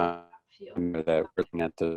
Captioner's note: video interference